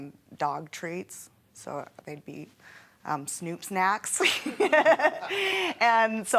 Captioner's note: laughing